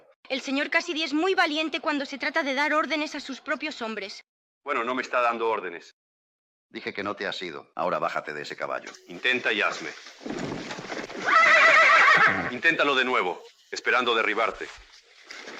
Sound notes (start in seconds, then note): 11.0 horse neighs